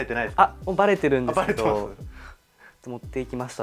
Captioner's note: laughs